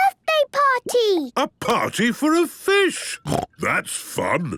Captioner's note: snorting